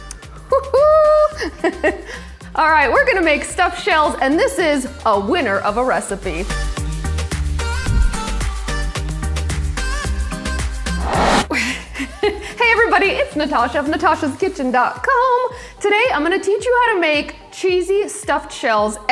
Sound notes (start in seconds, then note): 7.6 upbeat music; 10.8 image whooshes